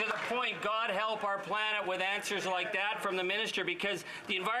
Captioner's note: applause